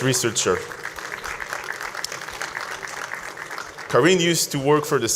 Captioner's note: audience applauds